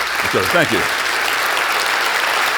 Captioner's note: applauding